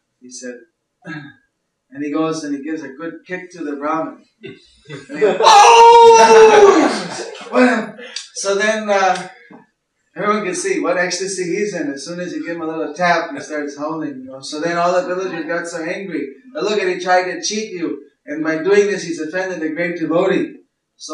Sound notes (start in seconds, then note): 4.9 brāhmaṇa cries out